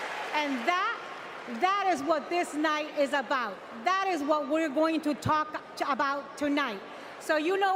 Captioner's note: cheers and applause